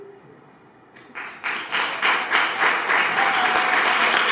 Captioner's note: applause